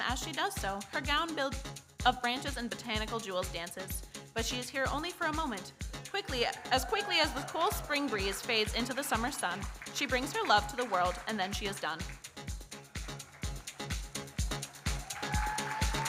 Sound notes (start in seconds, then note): 6.6 audience cheers; 13.6 electronic dance music